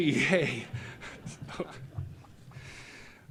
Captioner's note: laughter